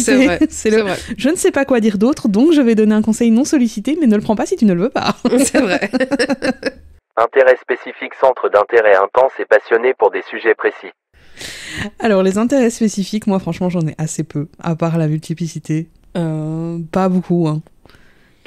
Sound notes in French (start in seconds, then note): 5.2 rires; 5.8 Voix off